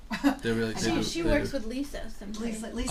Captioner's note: voiceover